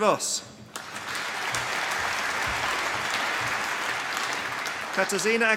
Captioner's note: applause